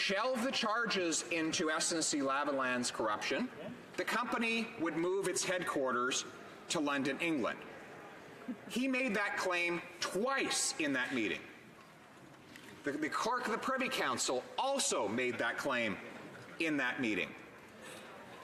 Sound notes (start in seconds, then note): none